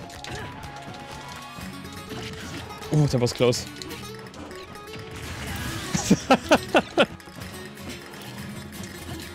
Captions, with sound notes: Uh, that was close. *laughs*